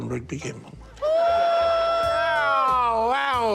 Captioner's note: wails